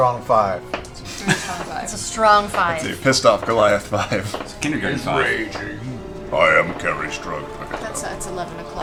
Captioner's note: laughs